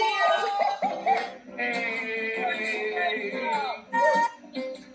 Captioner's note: attendees cheering